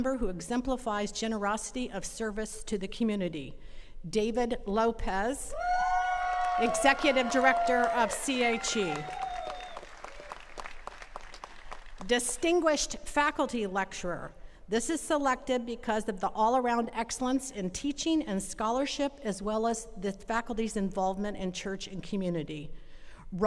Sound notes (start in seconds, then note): 5.6 attendees cheering; 9.5 attendees clapping